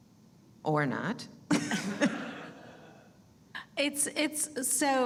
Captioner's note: audience laughing